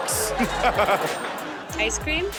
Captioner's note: all laugh